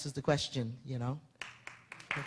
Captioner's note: applause